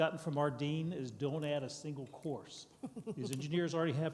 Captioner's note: laughs